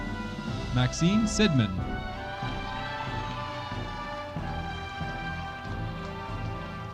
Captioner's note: audience applauding